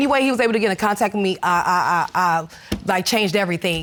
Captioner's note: stammering